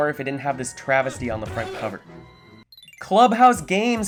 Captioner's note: fearful shriek